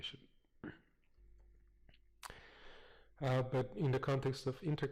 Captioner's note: pause